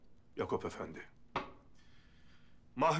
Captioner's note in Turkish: Baston vurma sesi